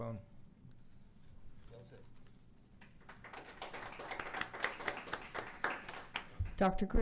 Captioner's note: applause